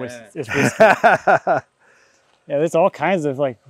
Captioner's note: laughing